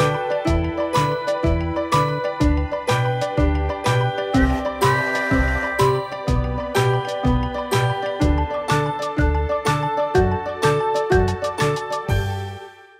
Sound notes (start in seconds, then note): 0.1 playful music; 4.9 train tooting